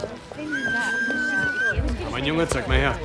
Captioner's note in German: Pfiff